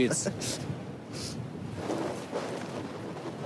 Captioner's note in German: Windrauschen